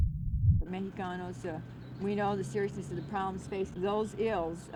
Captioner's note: unknown woman talking